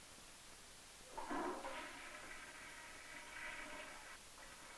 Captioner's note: toilet flush